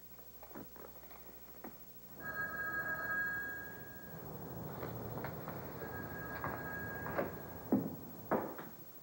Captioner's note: telephone rings